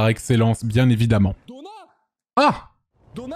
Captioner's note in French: accent du sud